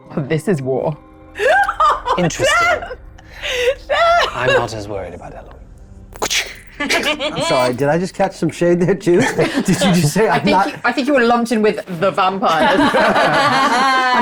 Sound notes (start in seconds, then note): 1.4 chuckling; 6.8 chuckling; 9.2 chuckling; 12.5 all chuckling